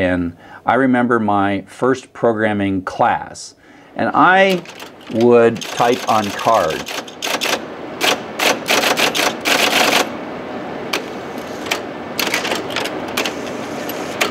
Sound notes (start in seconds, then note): 6.8 clunky typing sounds